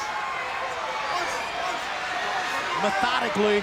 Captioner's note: audience cheering; wrestler chanting